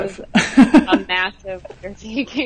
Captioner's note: laughs